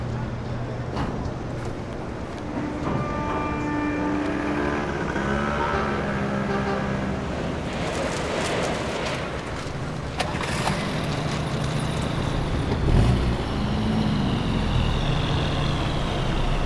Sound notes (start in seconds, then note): 7.6 paper rustling; 10.3 car engine starting